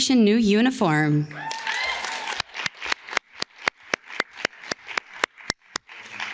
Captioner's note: audience cheers and class